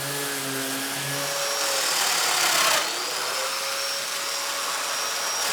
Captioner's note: machine buzzing continues